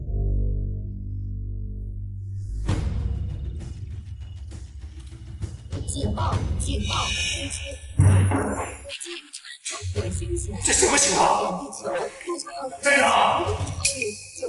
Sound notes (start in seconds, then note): 5.8 alarm